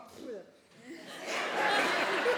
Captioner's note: audience laughing